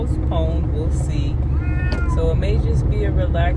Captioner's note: meow